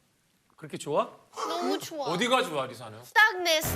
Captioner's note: sob